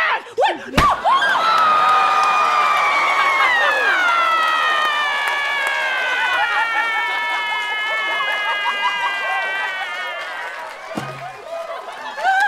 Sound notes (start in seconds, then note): 0.7 whack; 5.8 screaming; 10.9 thump